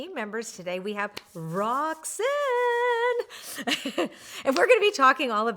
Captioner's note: giggles